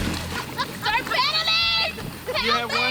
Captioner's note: laughing